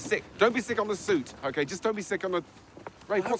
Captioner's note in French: none